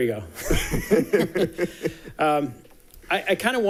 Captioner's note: people laughing